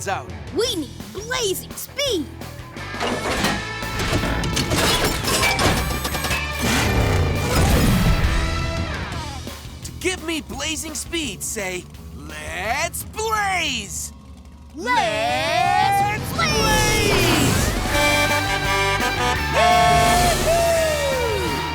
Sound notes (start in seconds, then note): 17.4 honking